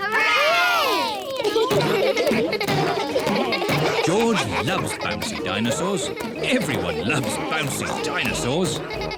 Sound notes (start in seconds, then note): 1.5 kids laughing